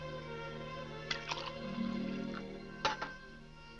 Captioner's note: liquid pouring